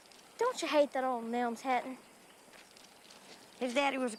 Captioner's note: none